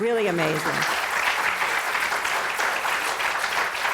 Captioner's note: applause